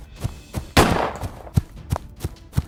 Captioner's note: gun shot